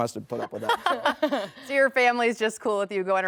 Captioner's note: laughs